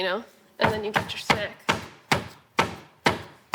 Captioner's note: pounding